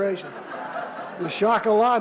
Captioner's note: laughter